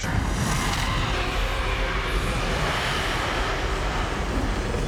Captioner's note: loud roaring